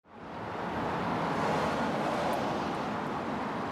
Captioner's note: cars whooshing